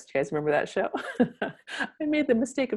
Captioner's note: laughing